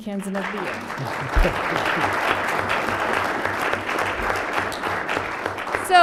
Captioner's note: applause